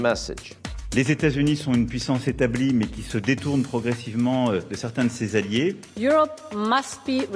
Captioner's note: president Macron speaking French